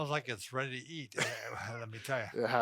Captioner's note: laughs